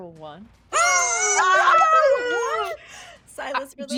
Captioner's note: people shouting